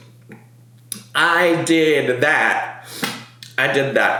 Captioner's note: sniffs